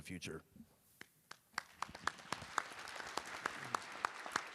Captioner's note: applause